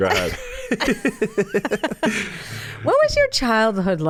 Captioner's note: both laugh